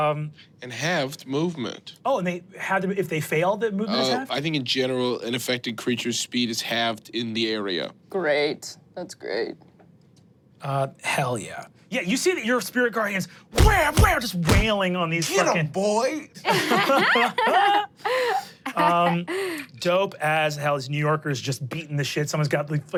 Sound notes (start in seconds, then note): 13.6 thumping; 16.4 laugh